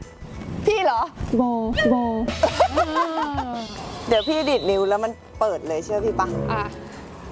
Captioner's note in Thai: เสียงหัวเราะ